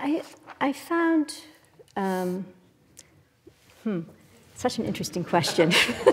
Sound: laugh

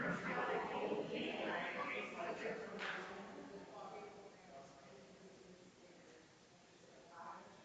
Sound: people chattering distantly continues

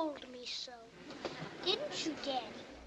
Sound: courtroom laughing

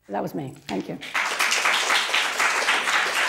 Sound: applause

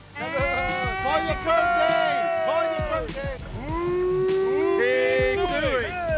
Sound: all cheering

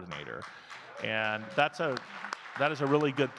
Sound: audience clapping

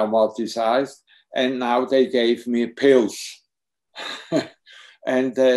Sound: chuckles

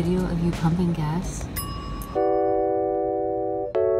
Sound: ding noise

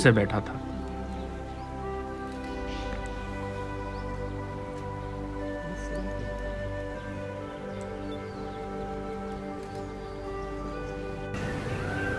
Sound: birds Chirping; peafowl Call

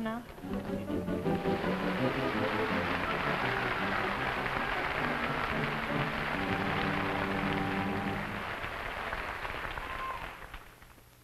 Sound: music, audience applause

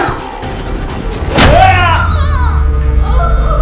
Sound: thuds

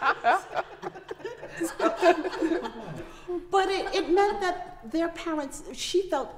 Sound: laughter

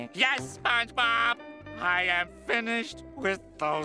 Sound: none

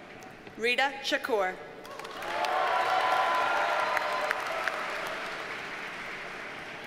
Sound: audience cheers and applauds

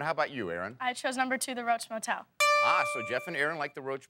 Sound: dinging bell

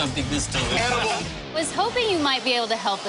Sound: indistinct shouting

